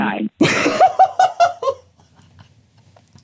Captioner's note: laughter